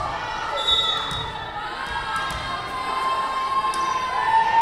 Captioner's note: whistle blowing